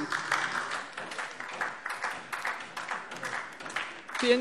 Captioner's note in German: Beifall DIE LINKE